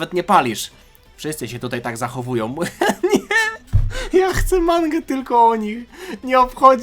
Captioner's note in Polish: śmiech